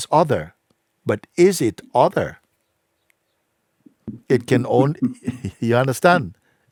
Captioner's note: questioner laughs